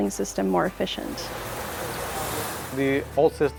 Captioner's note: water spraying